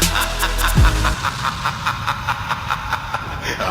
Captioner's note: laughs